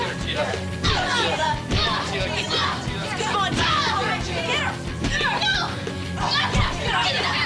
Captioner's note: women groaning; people cheering; Teela yelling